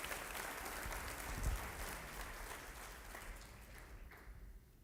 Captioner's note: applauding